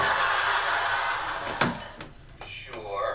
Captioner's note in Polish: dźwięki telewizora